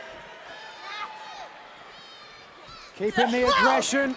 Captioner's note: crowd chatter